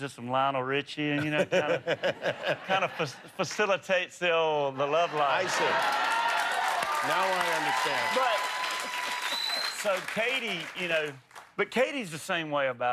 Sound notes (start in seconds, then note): 9.3 applause